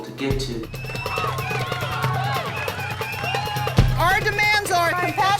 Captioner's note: group cheering